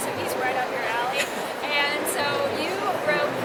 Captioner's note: man laughs